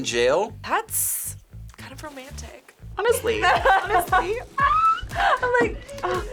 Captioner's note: laughs